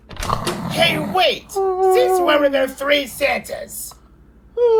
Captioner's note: still snoring